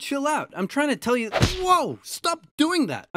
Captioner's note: smack